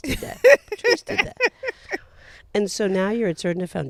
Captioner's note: laughing